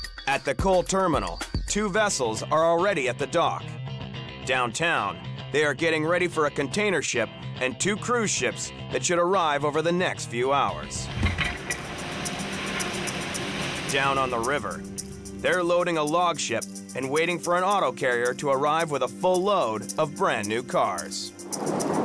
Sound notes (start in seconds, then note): 11.1 machine humming